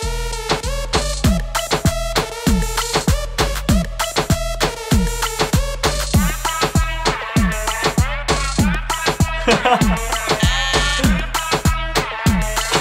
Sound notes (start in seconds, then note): 0.0 techno music; 8.6 laughs; 10.0 buzzer rings